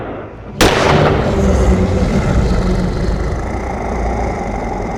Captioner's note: werewolf growling